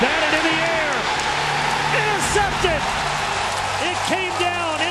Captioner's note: crowd roars